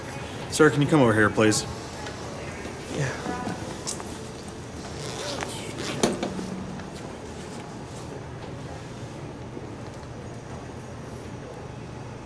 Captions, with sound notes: Sir, can you come over here, please? Yeah. [unzipping]